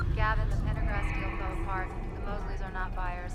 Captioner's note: beeping; voiceover